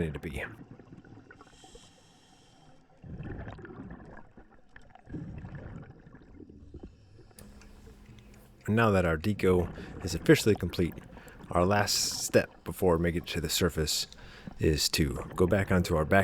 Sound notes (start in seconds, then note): 8.6 water Sounds